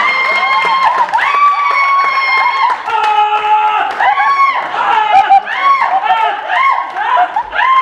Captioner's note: screaming